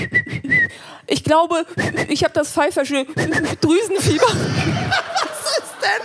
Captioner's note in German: pfeif